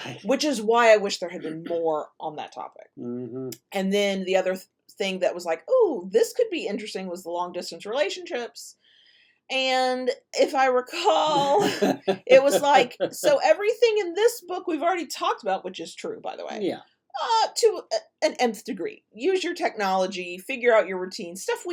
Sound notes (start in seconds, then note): 11.2 laughs